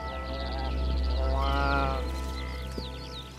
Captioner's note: bleating